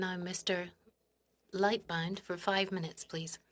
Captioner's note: speaking French